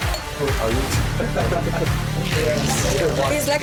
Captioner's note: chatter